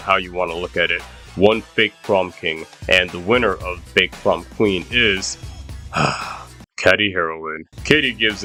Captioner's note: sigh